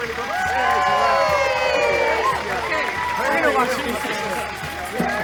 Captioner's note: applause